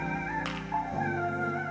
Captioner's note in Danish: clap